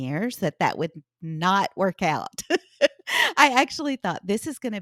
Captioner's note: laughs